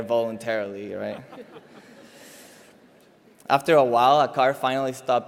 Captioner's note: laugh